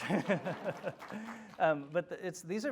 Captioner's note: applause